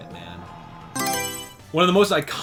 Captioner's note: Mario Selection Sound